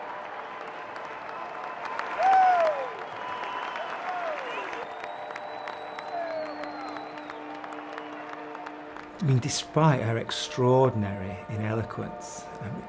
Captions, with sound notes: (audience cheering) - Sarah! - I mean, despite her extraordinary ineloquence,